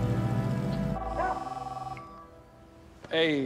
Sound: phone ringing

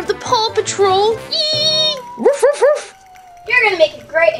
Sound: Liberty barking excitedly

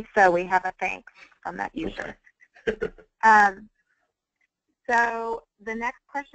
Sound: laughter

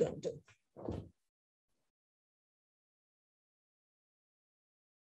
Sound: footstep thudding

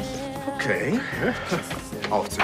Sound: laughs

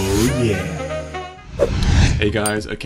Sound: slides whooshing

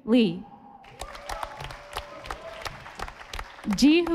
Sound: audience applauding

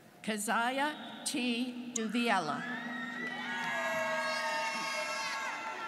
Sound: students cheering

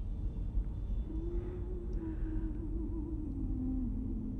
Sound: woman humming

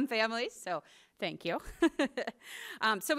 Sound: laughs

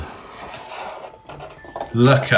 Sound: pen scratching

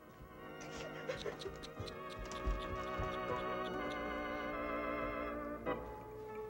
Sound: organ music; Cora tsking

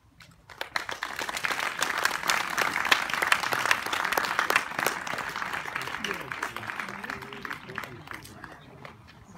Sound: applause

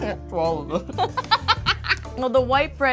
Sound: laughing

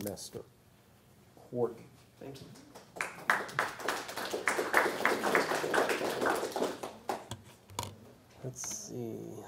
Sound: applause

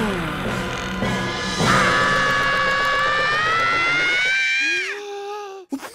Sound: screaming

